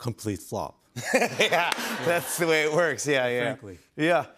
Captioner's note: laughs